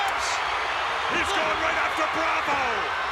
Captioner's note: applause